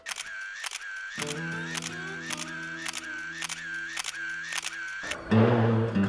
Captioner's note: camera shutter clicking